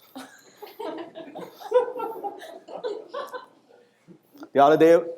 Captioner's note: audience laughing